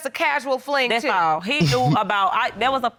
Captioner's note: chuckles